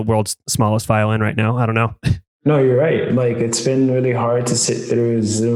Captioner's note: laughs